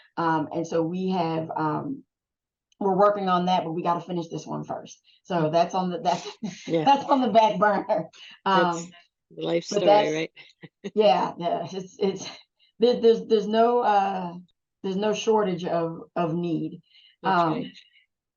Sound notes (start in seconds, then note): 6.1 laughs